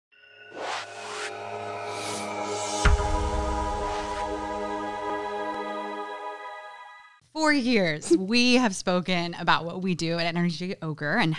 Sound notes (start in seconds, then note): 0.6 air whooshing